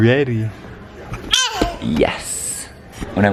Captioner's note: baby babbling